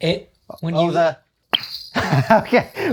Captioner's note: suction cup pop